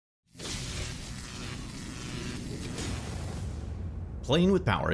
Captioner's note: electricity buzzing